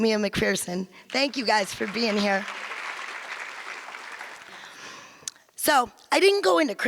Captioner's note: audience applause